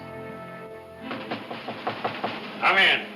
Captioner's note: knocking on door